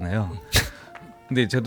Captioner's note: laugh